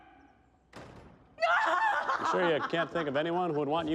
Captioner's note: door slams shut; hysterical laughing